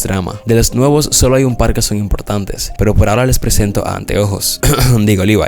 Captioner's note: clears throat